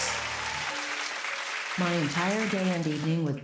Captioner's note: whispering; Robotic voice